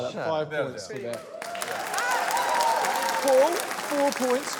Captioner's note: cheering, applause